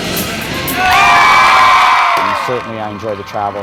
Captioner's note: audience cheering